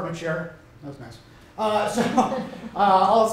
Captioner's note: laughter